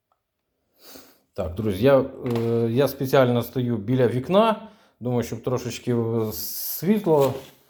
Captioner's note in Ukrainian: сопіння